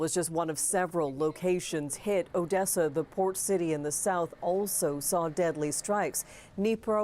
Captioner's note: speaking Alternate Language